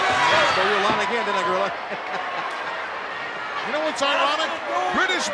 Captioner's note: chuckles